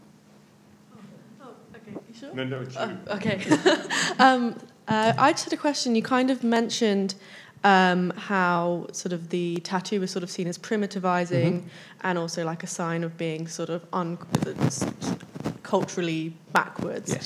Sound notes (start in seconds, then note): 3.3 laughs